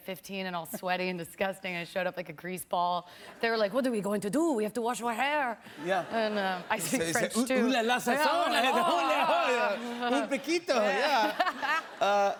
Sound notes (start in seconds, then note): 3.5 French accent; 5.9 normal voice